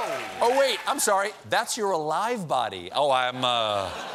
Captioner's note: applause; laughter